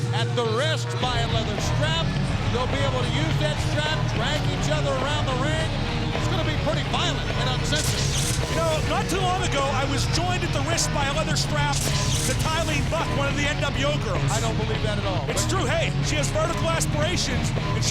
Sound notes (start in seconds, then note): 7.0 exhilarating rock music; 8.1 electricity crackling